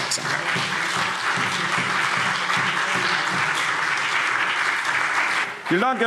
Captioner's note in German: Beifall CDU und BÜNDNIS 90/DIE GRÜNEN